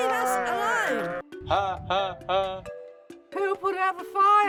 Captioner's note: robotic laughing